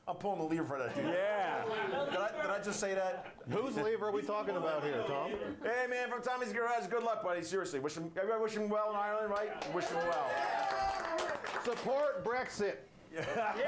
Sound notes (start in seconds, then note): 9.3 audience cheers